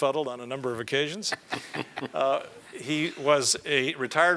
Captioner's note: laugh